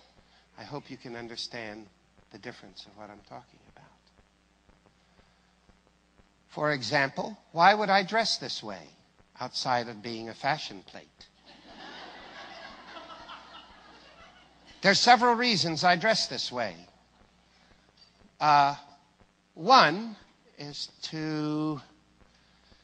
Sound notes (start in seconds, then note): 11.4 risate